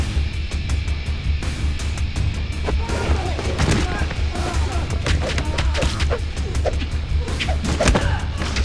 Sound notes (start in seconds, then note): 2.5 thudding; 5.4 air whipping